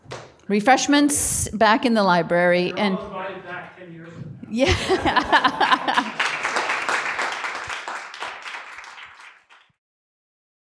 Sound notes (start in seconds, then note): 4.6 laughter and applause